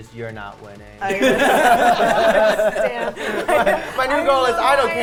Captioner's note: players laughing